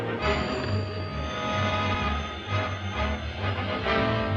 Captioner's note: phone ringing